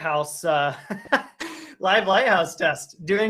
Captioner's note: laughs